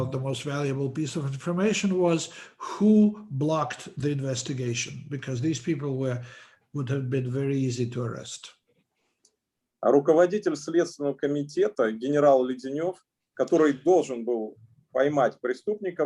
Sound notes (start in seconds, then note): 10.1 speaking Russian language